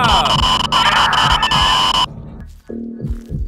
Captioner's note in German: Schreit